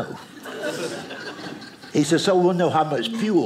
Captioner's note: audience laughing